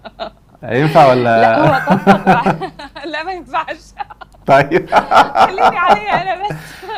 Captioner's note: laughs